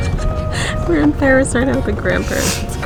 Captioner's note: laughing